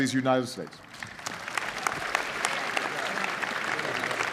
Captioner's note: applause